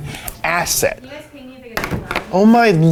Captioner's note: woman speaking faintly